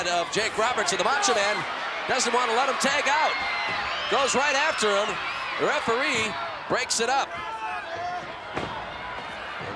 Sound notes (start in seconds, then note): 4.1 crowd cheering